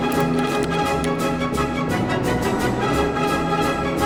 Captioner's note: keys clacking; triumphant music